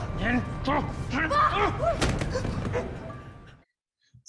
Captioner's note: man groans